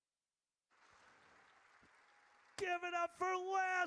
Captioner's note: audience cheers